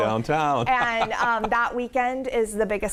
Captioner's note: laughs